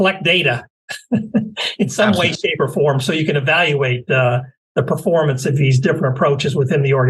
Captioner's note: laugh